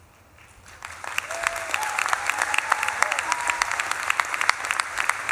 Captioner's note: audience claps and cheers